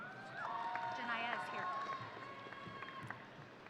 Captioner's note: audience cheering